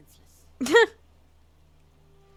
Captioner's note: laugh